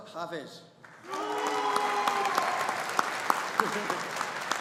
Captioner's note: audience applauding